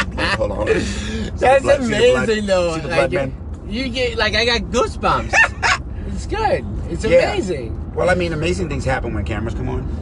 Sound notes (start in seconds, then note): 5.8 laughs